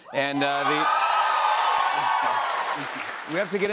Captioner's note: cheers and applause